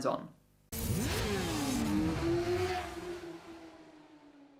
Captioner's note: engine roaring